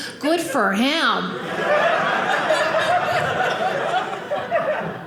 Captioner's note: audience laughing